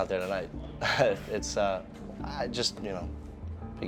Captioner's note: laughs